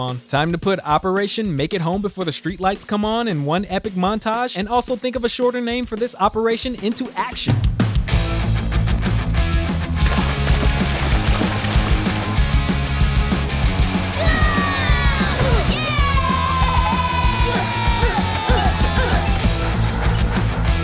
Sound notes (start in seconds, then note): 14.1 screaming; 15.6 cheering; 16.1 grunting